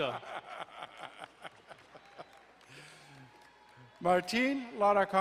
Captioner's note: laughing, cheering